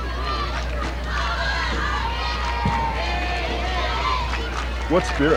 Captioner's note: cheering